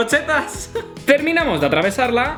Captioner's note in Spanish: risas